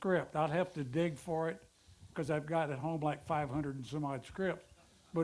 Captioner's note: none